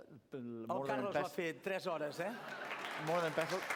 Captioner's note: non-english speech